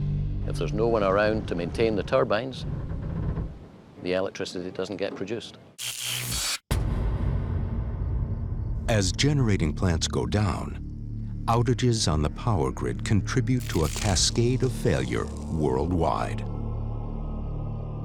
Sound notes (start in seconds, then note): 7.4 buzzing and crackling